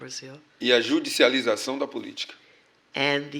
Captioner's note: speaking portuguese